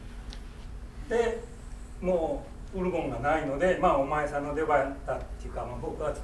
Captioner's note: speaking in foreign language